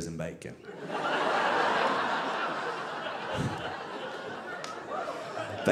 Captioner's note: audience laughing